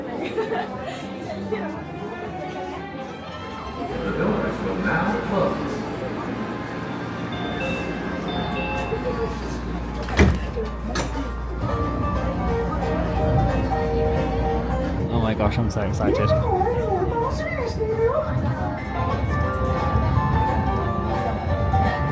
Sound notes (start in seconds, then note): 0.1 person laughing; 7.3 doorbell ringing; 10.0 door closing; 11.1 holiday music; 19.3 upbeat music